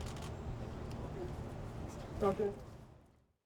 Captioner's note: camera clicks